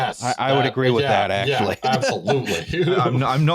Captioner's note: laughs